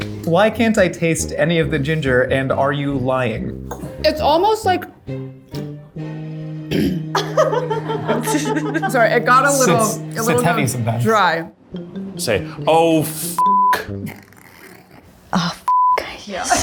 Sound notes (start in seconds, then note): 6.7 clearing throat; 7.0 all laughing